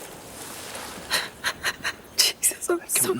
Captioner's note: Jodie sobbing